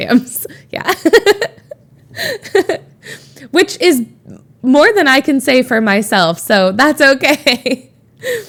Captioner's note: Emma laughs